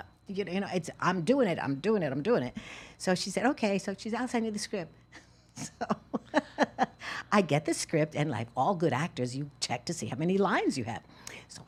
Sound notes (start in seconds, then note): 5.6 laughs